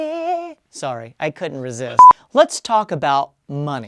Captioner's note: beep